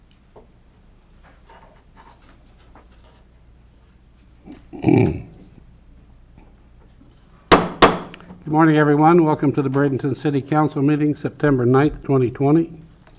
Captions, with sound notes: (clears throat) (gavel banging) Good morning everyone, welcome to the Bradenton City Council meeting, September 9th, 2020.